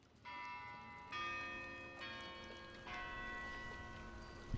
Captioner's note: church bells ringing